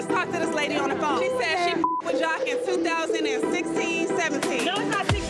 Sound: beep

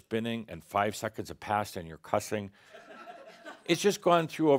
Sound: some chuckles

